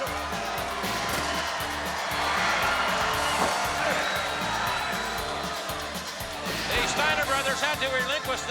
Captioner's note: crowd cheering